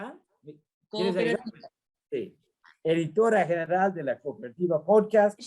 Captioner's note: speaks in Spanish